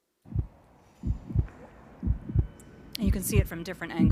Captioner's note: heart beating